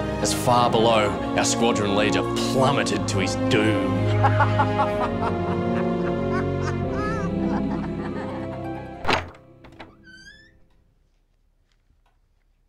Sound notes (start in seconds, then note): 4.0 laughing